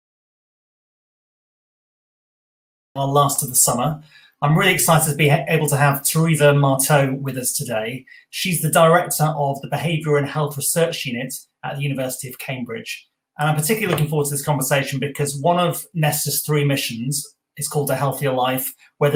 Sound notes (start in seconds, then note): 2.5 speaker off mic